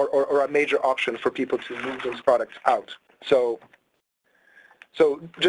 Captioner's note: paper rustling